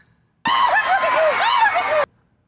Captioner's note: joyous whimpers